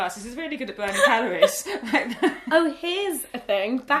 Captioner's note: laughter erupts